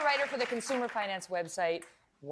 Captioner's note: applause